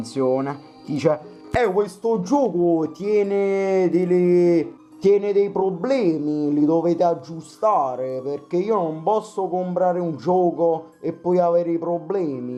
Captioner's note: imitates a neapolitan thief